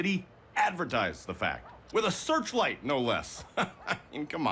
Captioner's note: laughs